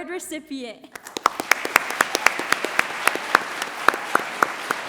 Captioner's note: audience applauds